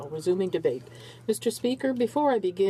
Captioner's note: speaking in french